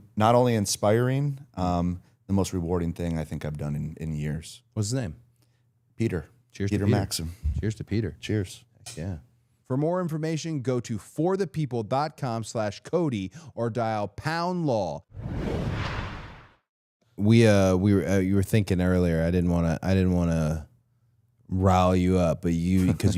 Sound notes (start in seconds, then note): 9.0 glasses clink; 15.1 rushing sound plays